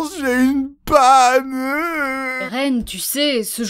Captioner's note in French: Pleure ridiculement